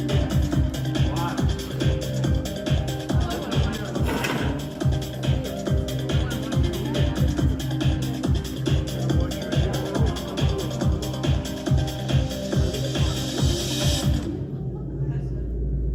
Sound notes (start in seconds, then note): 1.6 ambient crowd noise